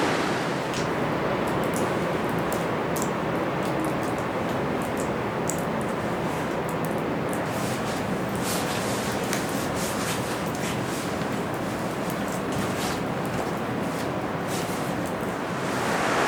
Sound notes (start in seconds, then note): 0.0 wind blowing